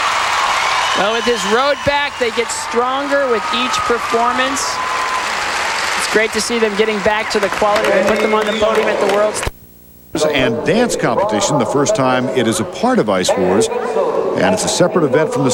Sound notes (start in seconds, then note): 0.0 applause; 0.0 crowd cheering